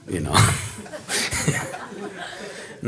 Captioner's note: laughs